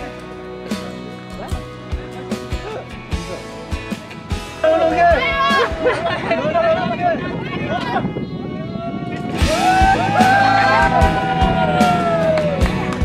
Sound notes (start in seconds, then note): 9.3 cheers and jubilation